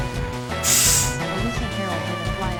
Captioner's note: hard inhale